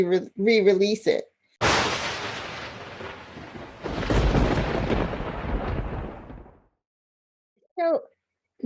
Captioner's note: thunder and lightning